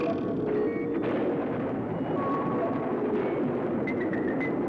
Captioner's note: thunder rumbling